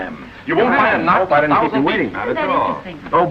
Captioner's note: general conversation